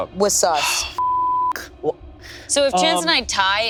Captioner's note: sighs; beep